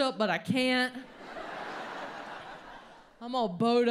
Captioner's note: audience laughs